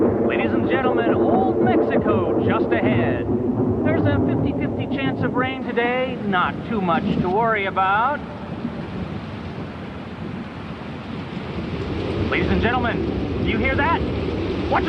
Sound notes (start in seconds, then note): 8.8 rain splattering